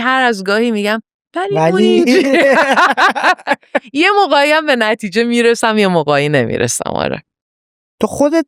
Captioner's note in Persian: خنده